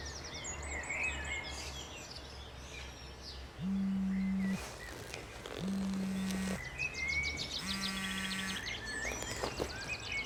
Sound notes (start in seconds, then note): 3.5 cell phone vibrating